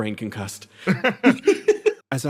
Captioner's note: laughs